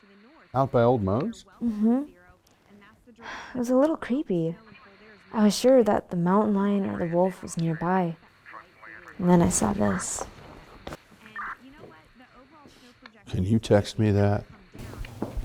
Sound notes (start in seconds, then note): 3.1 sighs